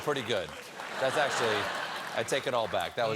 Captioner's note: laughter